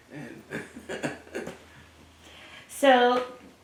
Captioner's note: laugh